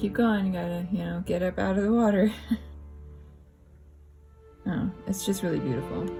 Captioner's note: laugh